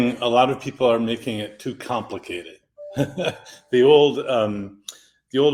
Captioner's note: laughs